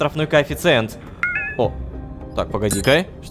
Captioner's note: notification